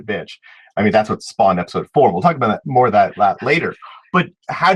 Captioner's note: whispers